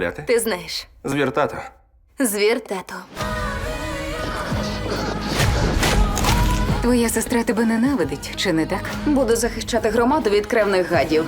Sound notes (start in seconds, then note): 4.3 panting